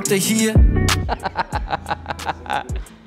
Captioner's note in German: laughs